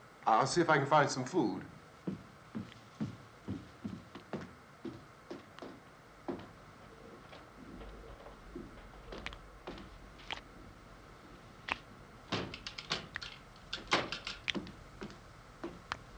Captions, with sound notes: I'll see if I can find some food. [ LIQUID DRIPPING ]